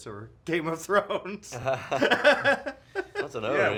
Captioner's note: both laugh